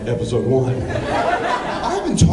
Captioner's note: laughs